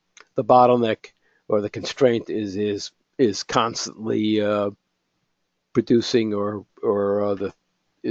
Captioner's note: cough